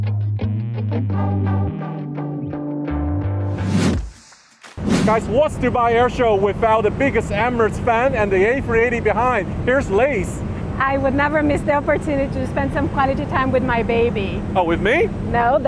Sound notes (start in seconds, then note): 0.1 gentle upbeat music; 4.7 whooshing